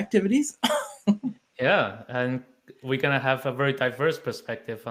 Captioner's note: chuckling